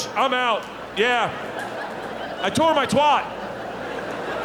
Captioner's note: audience laughing